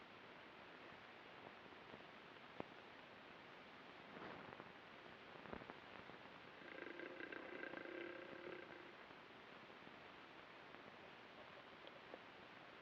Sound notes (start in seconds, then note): 6.6 guttural groaning